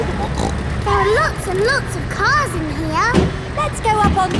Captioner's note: snorts; giggling